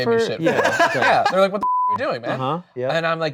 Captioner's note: beep